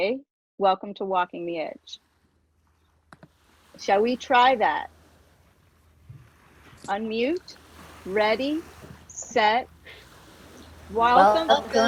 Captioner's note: mumbling and laughs